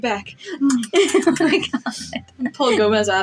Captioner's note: chuckling; kissing